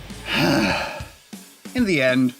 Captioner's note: sighs